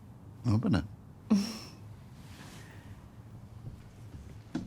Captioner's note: Chelz chuckles